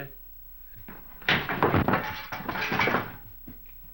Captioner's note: thud